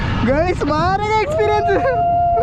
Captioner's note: screaming